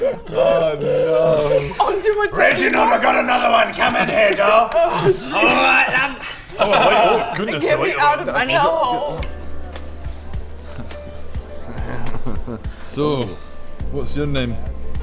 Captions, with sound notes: Oh no! Onto a table?! Reginald I got another one, come in here doll Oh Jesus! Alright love - Oh right oh goodness I like a little bit... - Get me out of this hell hole! *flirty laugh* So, what's your name?